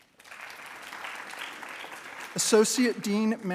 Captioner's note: attendees applauding